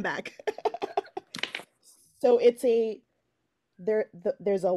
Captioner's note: laughing